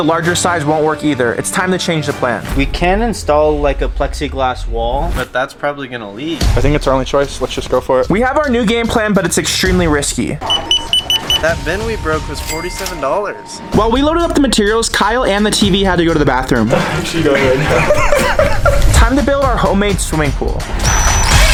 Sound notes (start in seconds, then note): 10.4 scanner beeping